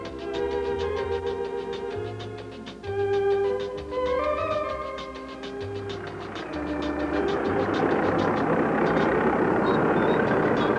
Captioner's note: sounds of tractor plowing field